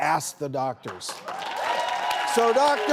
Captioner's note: audience applauds